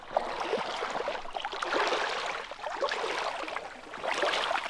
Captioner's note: water sloshing